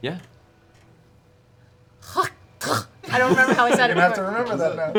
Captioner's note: hacking spit